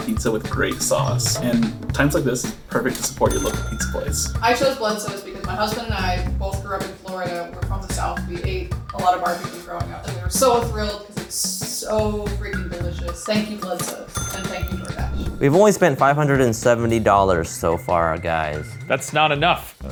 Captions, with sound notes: with great sauce and times like this, it's perfect to support your local pizza place. (cash register dinging) - I chose Bludso's because my husband and I both grew up in Florida, we're from the South, we ate a lot of barbecue growing up and we're so thrilled, it's so freaking delicious. Thank you Bludso's and thank you DoorDash. (air whooshing) - We've only spent $570 so far guys. - That's not enough!